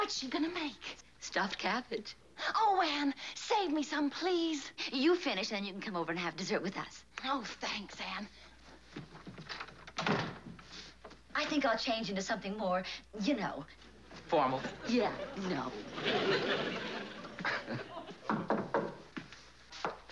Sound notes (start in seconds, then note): 17.0 laughs; 18.2 knocking at door